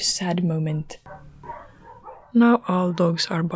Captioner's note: dogs start barking outside